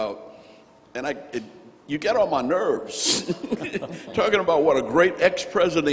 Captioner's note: laughs